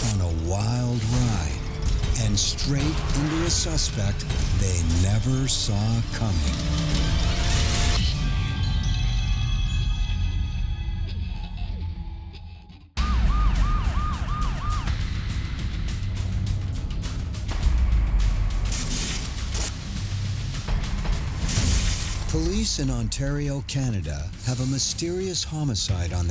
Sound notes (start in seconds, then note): 6.8 tense music; 13.0 siren wailing; 18.1 tense music